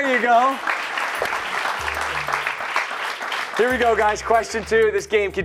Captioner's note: cheers and applause